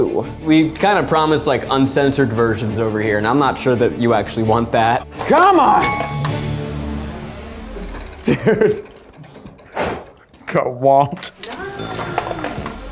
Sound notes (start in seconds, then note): 7.6 wheel clicks; 9.7 blows; 10.4 wheel clicks